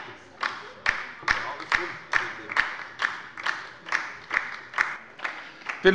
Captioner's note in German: Beifall bei der LINKEN